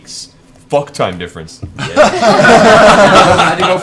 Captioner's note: all laugh